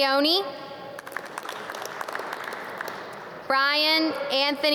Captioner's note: audience clap